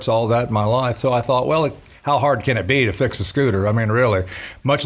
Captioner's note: none